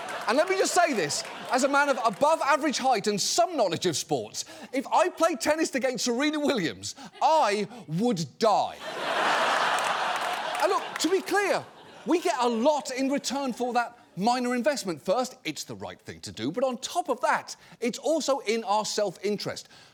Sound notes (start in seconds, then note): 8.7 audience laughing